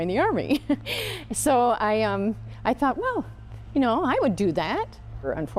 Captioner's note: laughing